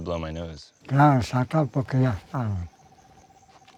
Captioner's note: speaking Spanish